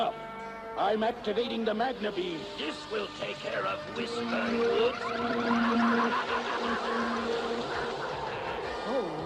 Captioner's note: snort